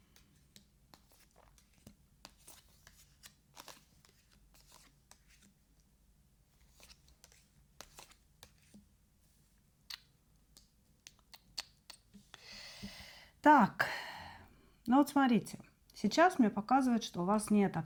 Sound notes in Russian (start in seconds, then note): 13.8 вздыхает; 13.8 тяжело вздыхает